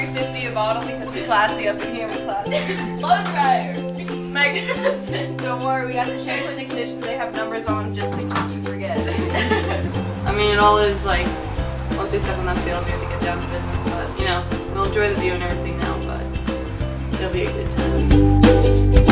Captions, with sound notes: - $3.50 a bottle because we classy up in here, we classy. (girl giggling) - Don't worry, we gotta check in the kitchen. They have numbers all on them, just in case you forget. - It's like one through seven, that's the only way to get down to business. But we'll enjoy the view and everything now, but it'll be a good time.